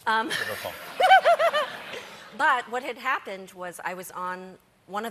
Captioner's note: laughter